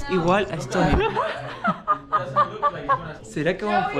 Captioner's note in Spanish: Carcajadas